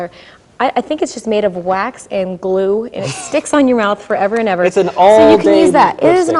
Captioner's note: guffaws